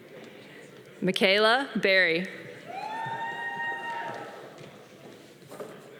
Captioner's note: audience cheering